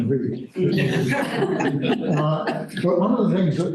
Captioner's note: laughter